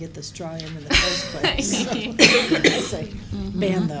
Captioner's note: laughter